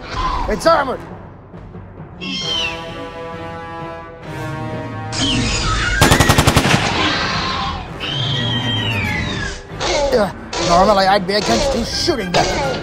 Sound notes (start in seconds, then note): 2.2 velociraptor screeching; 6.0 gunshots; 6.9 velociraptor screeching